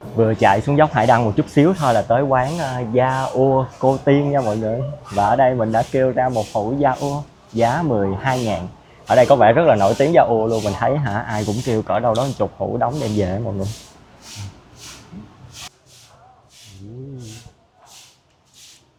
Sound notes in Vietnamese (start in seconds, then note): 6.8 khịt mũi; 13.6 khịt mũi